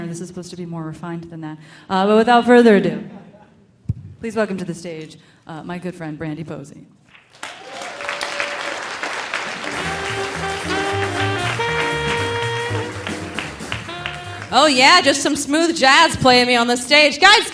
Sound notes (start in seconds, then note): 7.2 audience applauding; 7.4 audience cheering; 9.4 delightful music